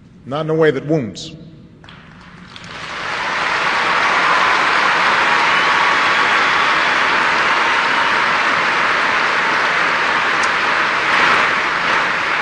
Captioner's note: applause